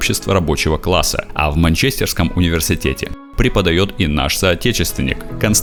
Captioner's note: Russian